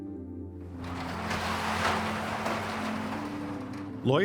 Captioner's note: door rumbles